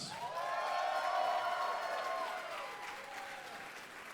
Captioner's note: audience cheering